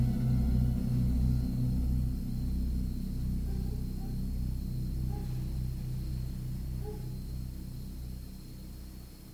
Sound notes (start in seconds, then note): 3.9 dog barking; 6.2 insects chirping